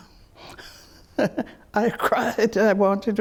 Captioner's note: chuckles